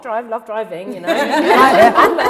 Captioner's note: laughter